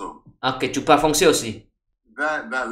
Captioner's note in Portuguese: francês